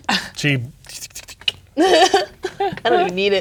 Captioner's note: clicks tongue; laughs